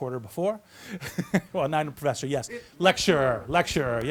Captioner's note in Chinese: 笑声